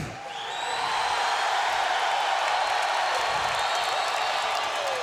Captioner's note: crowd cheering